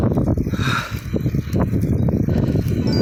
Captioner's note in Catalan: Esbufega